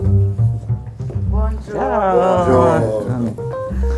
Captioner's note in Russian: здороваются по-французски